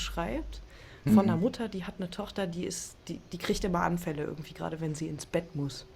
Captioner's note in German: räuspern